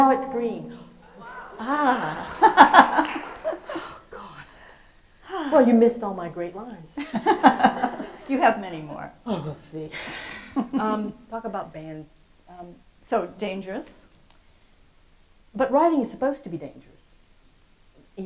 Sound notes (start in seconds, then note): 0.8 host and audience gasp, then laugh, at the sudden loudness; 6.9 laughs